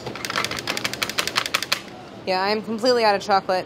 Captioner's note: tapping